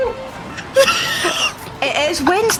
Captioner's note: wheezing